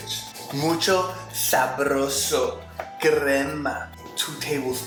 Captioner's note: speaks in Spanish